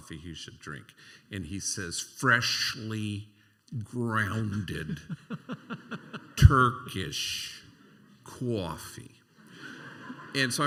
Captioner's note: imitating New York accent; laughter